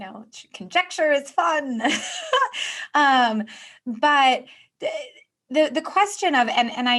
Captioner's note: giggling